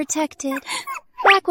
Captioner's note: sob